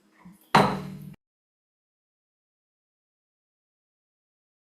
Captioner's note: gavel clanks